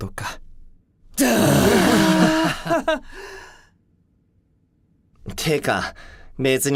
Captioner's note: sigh